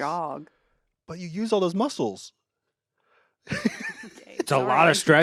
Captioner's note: laughs